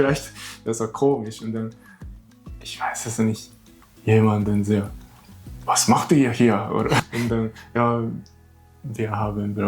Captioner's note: laughs